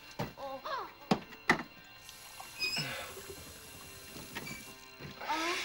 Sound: <i> moaning</i>

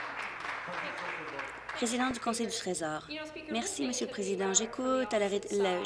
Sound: applause

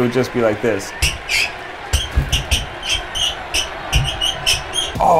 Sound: sneakers squeaking

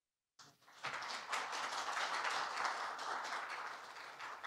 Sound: applause

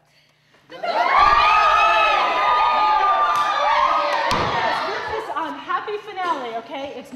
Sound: cheering

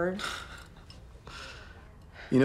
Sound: chuckles

